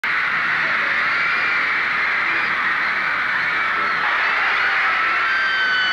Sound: hysterical groupies screaming

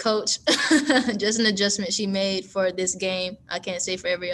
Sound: laughs

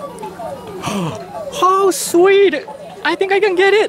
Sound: gasps

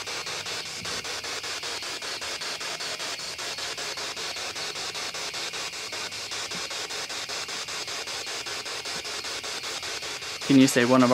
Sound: static continues

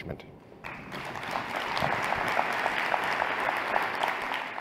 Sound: applause

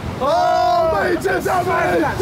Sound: all cheering

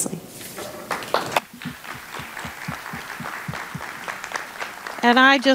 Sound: audience applauding

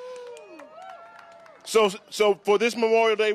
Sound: applause

